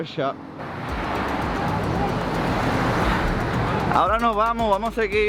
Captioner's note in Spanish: sonidos de calle